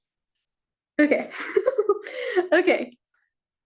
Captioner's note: chuckles